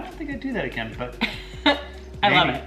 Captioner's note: laughing quietly